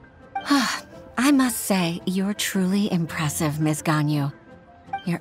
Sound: sigh

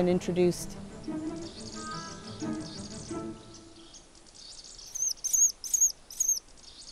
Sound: birds chirping

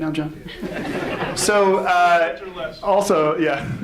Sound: audience laughs

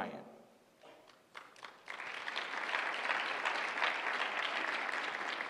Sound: applause

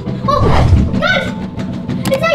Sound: door banging

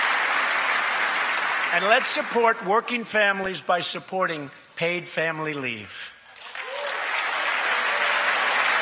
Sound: applause

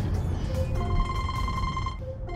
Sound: phone Call

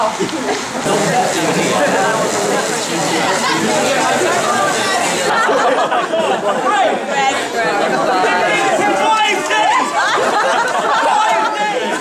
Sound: laughing and chatting

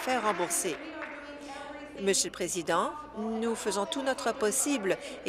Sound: applause

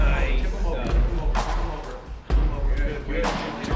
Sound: chattering

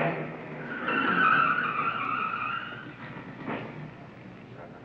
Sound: tires screeching; car rumbling; people chattering

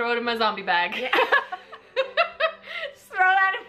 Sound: both laughing

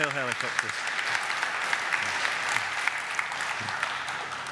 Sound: audience applaud

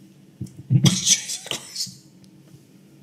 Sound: laughs

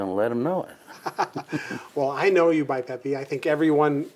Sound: laughing

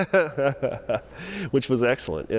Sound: laughter

